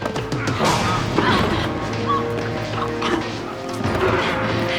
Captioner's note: gasps and grunts